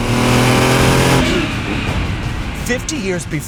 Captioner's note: engine revs